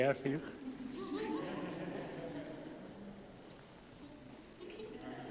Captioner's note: giggles